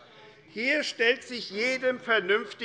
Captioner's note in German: Zurufe DIE LINKE